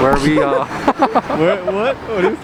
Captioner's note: laughter